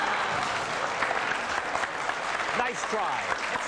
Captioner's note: applause